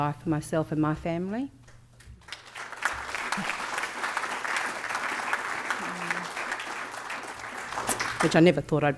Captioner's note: applause